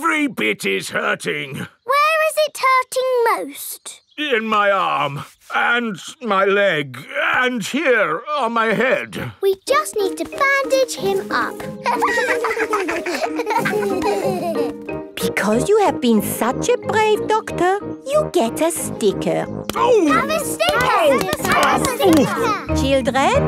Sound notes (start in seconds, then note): 11.8 laughter